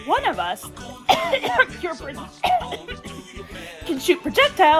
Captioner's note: cough cough